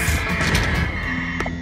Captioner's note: clunk